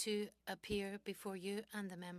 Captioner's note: speaking French